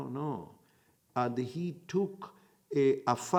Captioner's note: in Hebrew